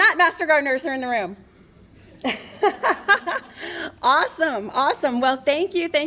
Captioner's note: laughter